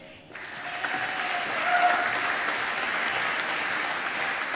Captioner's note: applause